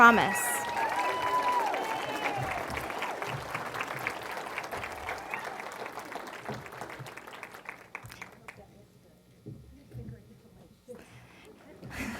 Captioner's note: applause